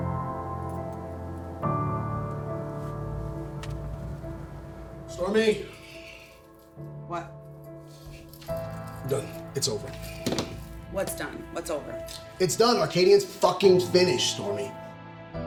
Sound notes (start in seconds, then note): 0.1 soft piano music playing; 7.8 keys jingling; 10.0 thudding sound